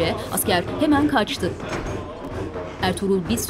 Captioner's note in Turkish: Dua sesleri